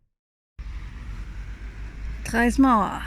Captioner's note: traffic